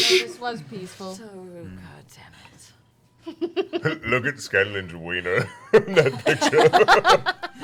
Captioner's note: laughs